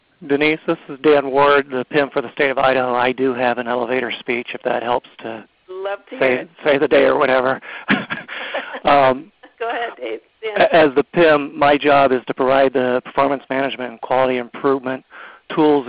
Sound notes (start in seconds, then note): 7.8 laughter